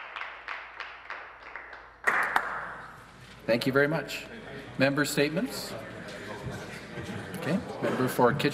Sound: some Applause

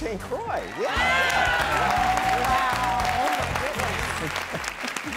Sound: cheering and clapping

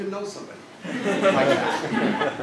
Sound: laugh

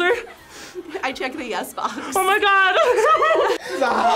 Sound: laughs

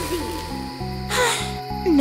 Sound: sigh

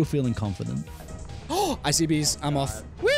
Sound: gasp

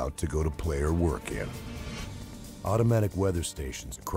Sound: voiceover

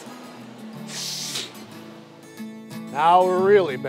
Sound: sniffing

